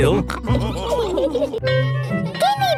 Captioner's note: all laughing